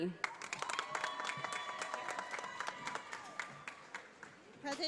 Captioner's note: audience applauding